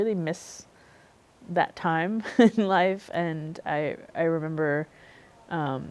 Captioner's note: chuckles